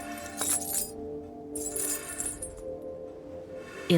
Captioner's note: chains rattling